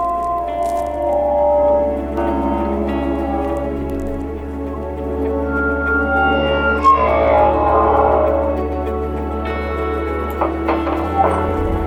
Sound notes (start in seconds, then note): 0.2 metallic screaching; 6.5 metallic screaching